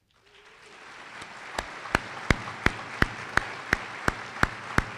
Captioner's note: applause